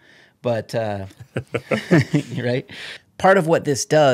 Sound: laughter

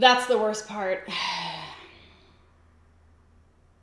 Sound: sighs

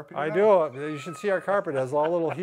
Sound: laughs loudly

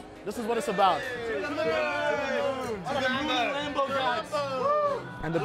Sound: group cheering

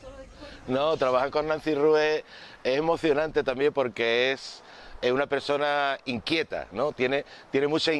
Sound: in Spanish

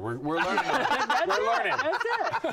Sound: laughter

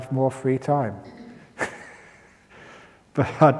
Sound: chuckle

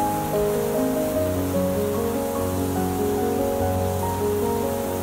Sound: bees buzzing loudly

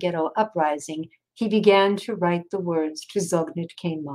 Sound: speaking in foreign language

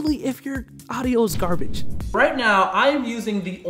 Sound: dramatic thump

